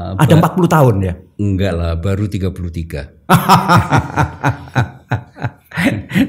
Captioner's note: laughs